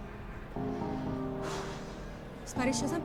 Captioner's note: deep sigh